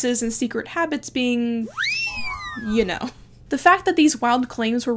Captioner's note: whistle blowing